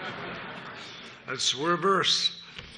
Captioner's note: laughter